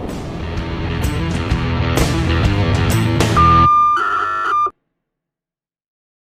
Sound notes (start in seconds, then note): 0.8 energetic music; 3.3 screen beeps